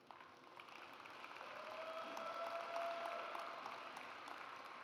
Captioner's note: audience applauds